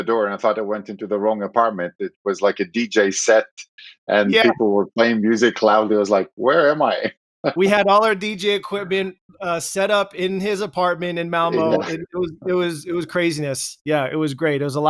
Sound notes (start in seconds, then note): 7.1 laughs